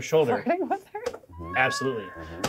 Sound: laughs

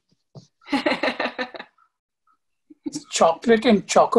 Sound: laughing

